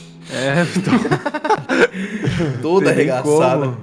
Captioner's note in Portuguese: risadas